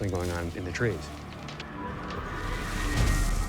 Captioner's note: rustling